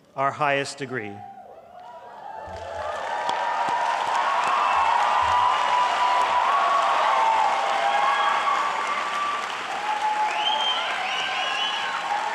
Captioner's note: applause